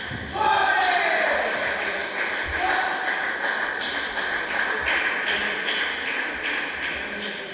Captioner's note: clap